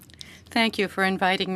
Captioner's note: speaking French